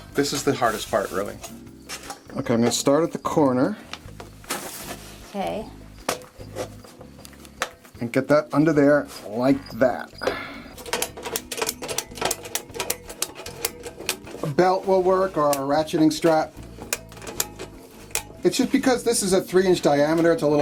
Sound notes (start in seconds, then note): 10.9 ratcheting sounds